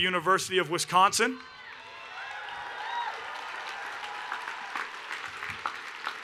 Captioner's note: cheering and Applause